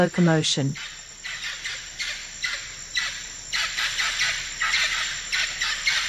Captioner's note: forest sounds